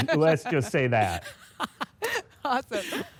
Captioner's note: laughter